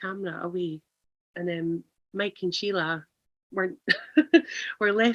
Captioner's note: laughs